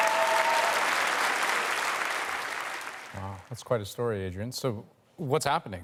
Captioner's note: applause